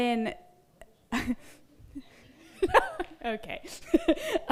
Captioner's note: laughs